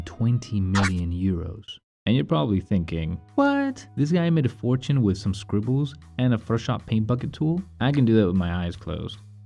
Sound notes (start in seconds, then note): 0.7 audio scratch